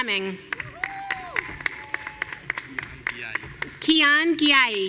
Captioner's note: audience cheering